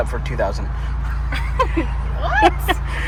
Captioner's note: chuckles